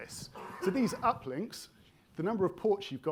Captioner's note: attendee coughing